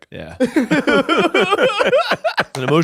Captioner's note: all laughing